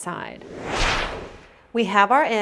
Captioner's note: whoosh!